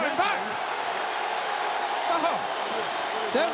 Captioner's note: crowd boos